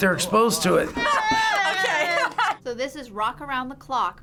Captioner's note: laughs